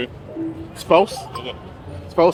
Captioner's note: scoreboard beeps